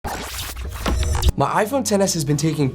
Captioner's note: track scratches